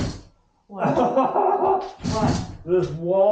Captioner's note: laughing